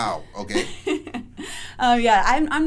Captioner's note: laughs